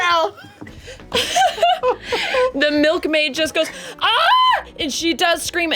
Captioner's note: laughs